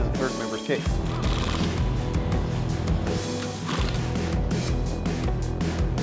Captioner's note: power drill whirring